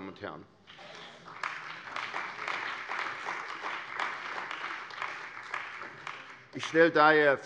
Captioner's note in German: Beifall bei der CDU und dem BÜNDNIS 90/DIE GRÜNEN